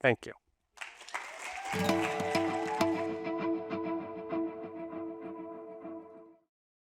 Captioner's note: applause and music playing